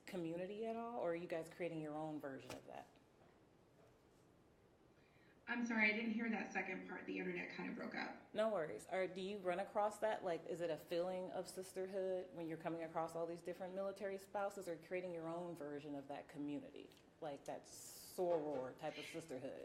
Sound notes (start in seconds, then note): none